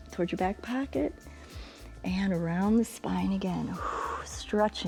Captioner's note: exhales